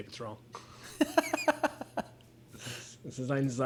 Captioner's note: laughs